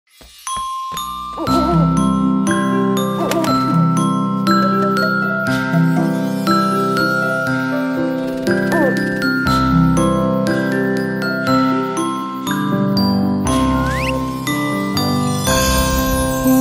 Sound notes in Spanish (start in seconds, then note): 0.4 Música de cuna; 0.4 Sonido de lechuza